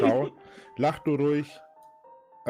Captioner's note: keep laughing